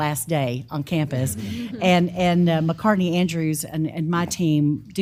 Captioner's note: laugh